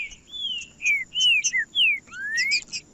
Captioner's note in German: trinca ferro cantando